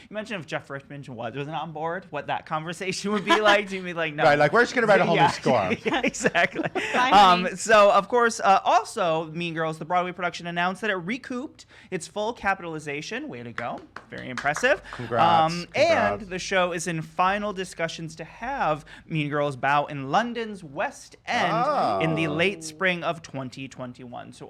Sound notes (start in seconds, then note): 4.8 giggles